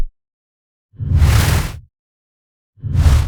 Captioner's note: whoosh